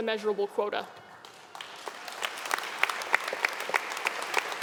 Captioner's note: audience clapping